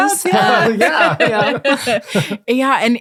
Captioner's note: all laughing